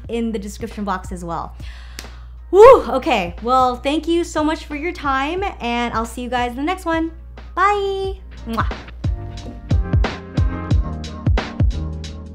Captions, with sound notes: in the description box as well. Whoo, okay, well thank you so much for your time, and I'll see you guys in the next one. Bye! (smooches) (upbeat music)